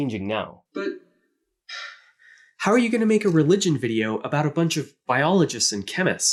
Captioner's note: sigh